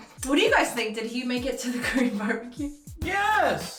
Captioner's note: laughing